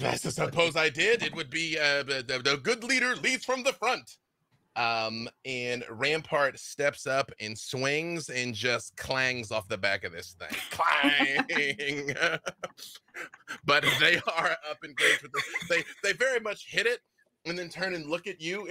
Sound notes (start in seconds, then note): 10.5 laughing; 10.5 laughs